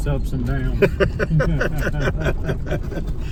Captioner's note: laughs